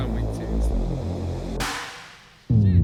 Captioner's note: boom